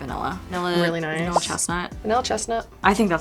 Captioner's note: image popping